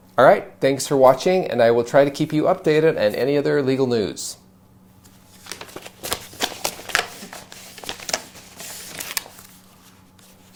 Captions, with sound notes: All right. Thanks for watching. And I will try to keep you updated on any other legal news. (papers rustling)